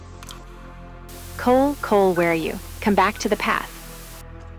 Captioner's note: EDITH, over radio